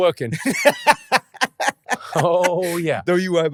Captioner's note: Jamali laughing